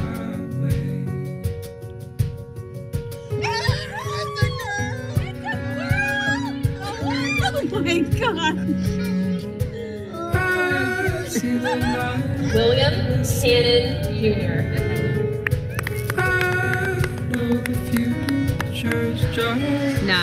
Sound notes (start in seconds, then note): 3.4 screaming; 9.6 singing; 15.4 clapping